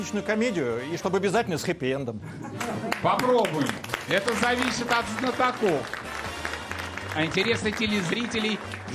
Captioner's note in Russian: аплодисменты